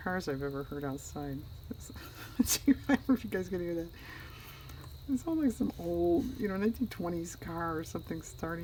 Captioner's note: laughs